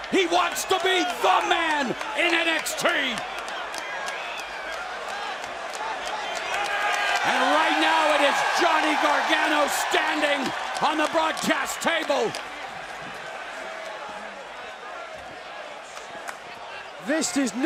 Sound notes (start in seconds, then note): 6.4 cheers and applause